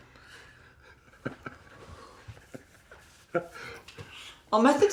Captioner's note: laughing